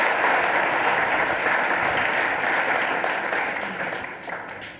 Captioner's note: applause